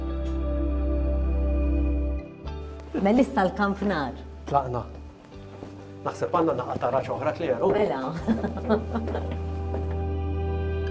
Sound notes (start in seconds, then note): 0.2 uplifting music; 8.2 chuckles; 9.3 uplifting music